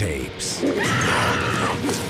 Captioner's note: woman screams